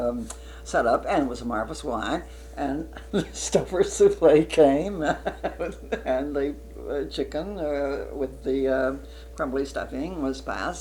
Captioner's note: laughs